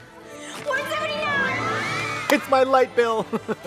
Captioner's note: all cheering